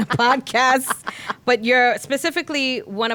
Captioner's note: laughing